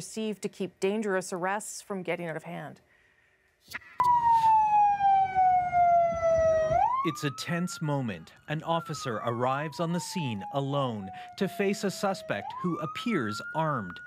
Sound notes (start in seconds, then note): 5.6 sirens